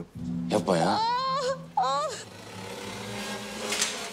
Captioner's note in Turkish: Nazlı bağırıyor